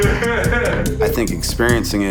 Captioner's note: laughing